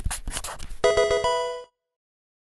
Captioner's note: marker scratching; electronic video game chime